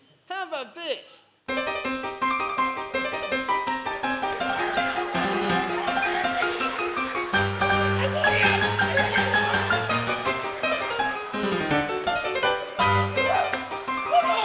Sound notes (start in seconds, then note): 4.6 upbeat music; 8.0 audience applauding